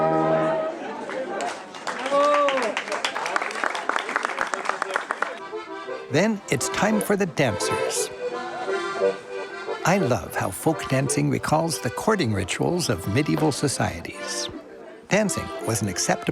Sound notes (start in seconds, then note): 3.7 applause